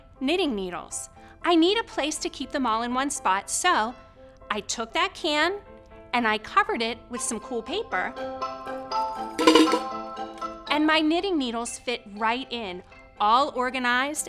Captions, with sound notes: with all of my knitting needles. I need a place to keep them all in one spot, so, I took that can, and I covered it with some cool paper. (knitting needles scraping) And my knitting needles fit right in,